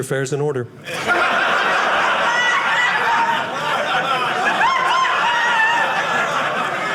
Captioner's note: audience laughing